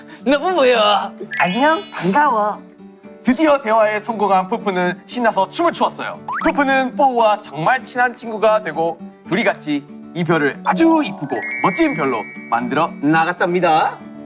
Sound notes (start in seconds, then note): 1.3 Ppowoo with sweet voice